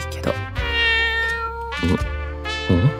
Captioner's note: meow~